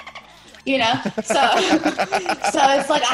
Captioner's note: laugh